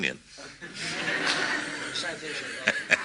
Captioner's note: laughter